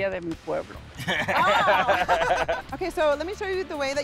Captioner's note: laughter